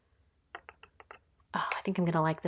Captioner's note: plastic clicking